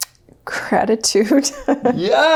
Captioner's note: laughs